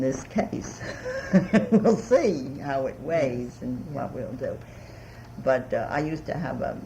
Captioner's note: laughs